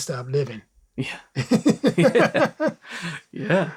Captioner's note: laughter